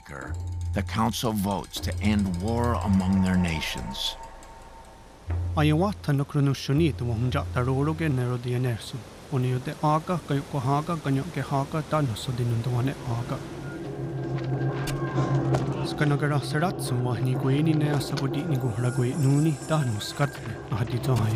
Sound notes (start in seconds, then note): 5.4 speaking Native language; 8.4 waterfall churning; 12.9 men fighting and yelling